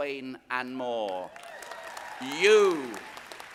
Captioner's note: audience applauding